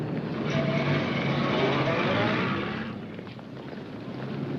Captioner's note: car engine rumbling